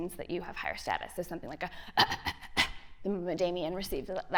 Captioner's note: coughs